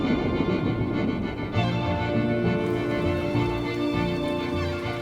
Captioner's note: thunder rumbling